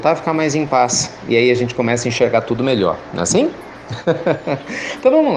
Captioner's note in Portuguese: Risos